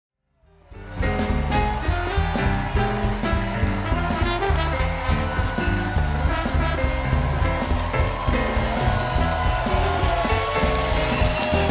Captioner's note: applause